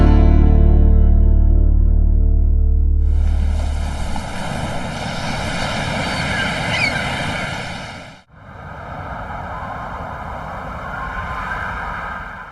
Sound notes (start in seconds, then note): 3.0 waves crashing; 5.5 seagulls chirping; 8.5 wind whistling